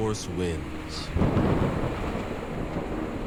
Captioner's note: thunder